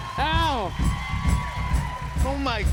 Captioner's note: cheers and applause